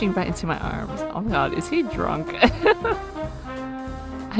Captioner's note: laughs